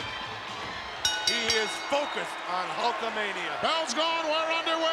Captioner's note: bell rings